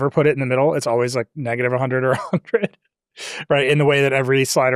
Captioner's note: chuckles